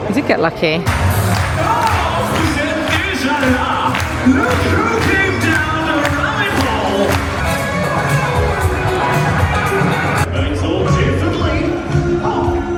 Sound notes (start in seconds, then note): 1.1 hands clapping; 1.1 upbeat music; 3.0 announcer speaking French; 8.0 upbeat music